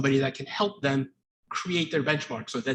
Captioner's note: none